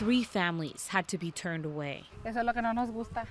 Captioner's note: speaking in foreign language